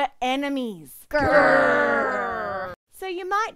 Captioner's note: angry groans